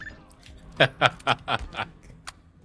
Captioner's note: laughs